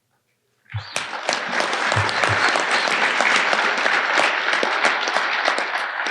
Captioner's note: audience applauding